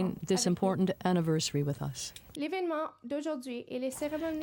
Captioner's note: speaking French